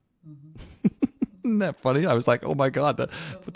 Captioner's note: laugh